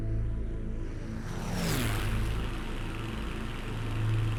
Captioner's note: plane zooming